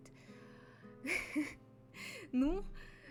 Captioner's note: laugh